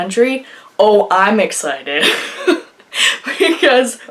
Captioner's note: laughs